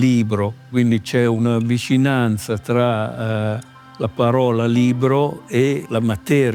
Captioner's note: in Italian